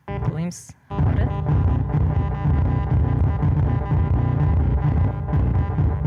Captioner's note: electronic beeps and tones